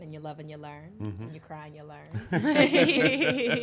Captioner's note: laughs